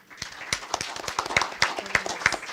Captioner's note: audience applauding